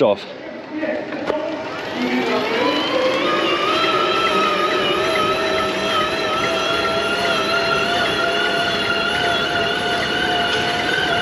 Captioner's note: engine